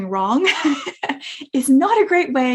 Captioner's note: speaker laughing